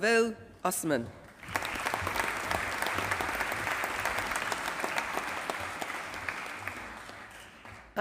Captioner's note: applause